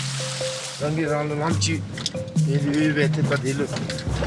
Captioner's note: dzongkha spoken audio